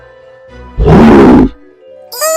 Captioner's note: roars